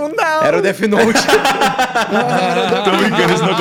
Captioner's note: laughter